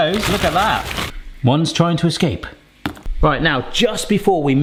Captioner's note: broccoli thuds